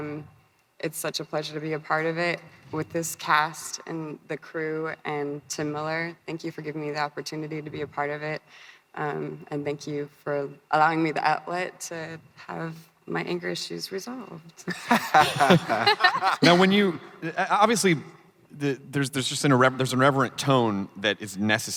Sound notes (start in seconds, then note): 14.7 crowd laughing